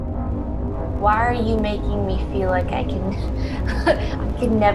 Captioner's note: chuckles